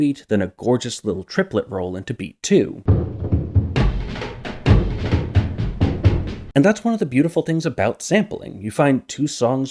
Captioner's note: bang